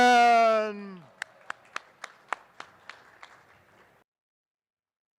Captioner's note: attendees applauding